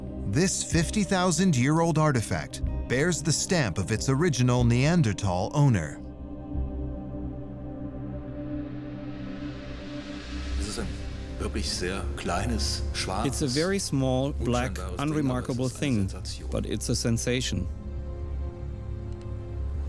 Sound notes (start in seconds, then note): 7.5 suspenseful music; 11.3 speaking in German; 13.5 voice-over